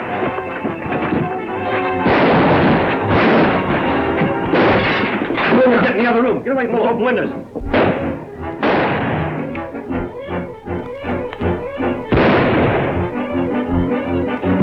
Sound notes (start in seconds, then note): 0.0 adventurous music; 2.0 gun fires; 4.4 glass shatters; 4.4 gun fires; 8.6 gun fires; 12.1 rifle fires